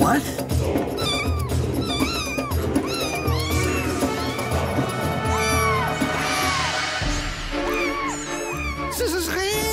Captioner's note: kittens mewing, ominous chanting